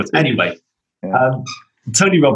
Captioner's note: laughter